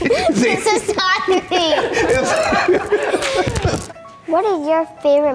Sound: laughing

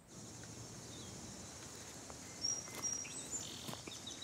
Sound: birds chirping

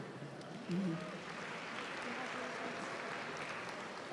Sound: applause

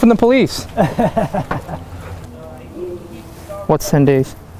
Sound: laughing

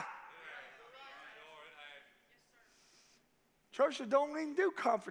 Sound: congregation agreeing

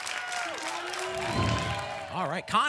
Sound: applause and cheering; whoosh

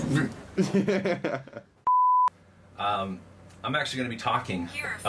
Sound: man laughing

